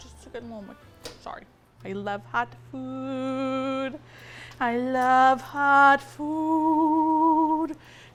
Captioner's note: singsong